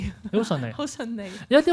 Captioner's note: laughs